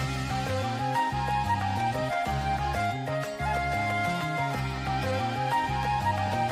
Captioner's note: applause